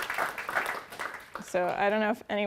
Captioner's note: applause